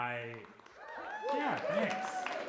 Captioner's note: audience cheering